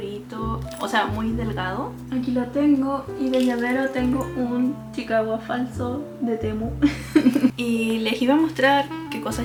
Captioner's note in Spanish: risas